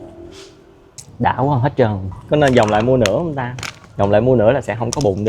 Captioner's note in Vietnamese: khịt mũi